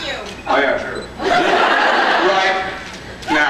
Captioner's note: scattered laughs; laughs